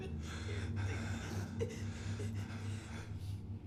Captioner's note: crying